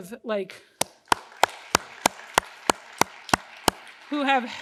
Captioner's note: host and crowd clapping